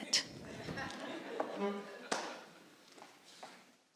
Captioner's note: audience chuckling